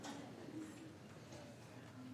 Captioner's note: background chatter